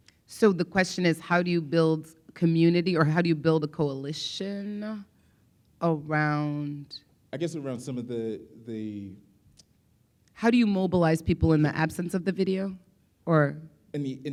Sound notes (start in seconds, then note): none